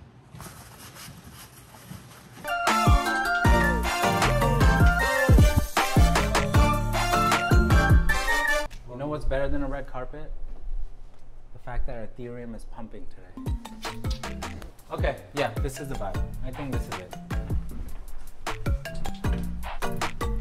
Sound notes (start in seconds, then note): 0.4 paper scrunches; 2.5 loud piano music; 13.4 loud upbeat music; 18.5 loud upbeat music